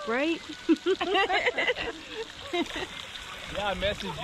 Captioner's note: laughing